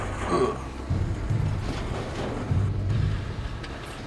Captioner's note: metal rustles; grunts